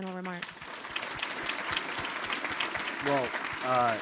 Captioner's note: audience applauding